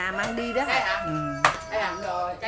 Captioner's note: rooster crowing